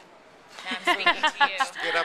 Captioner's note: laughing